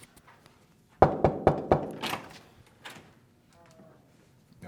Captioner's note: door knocks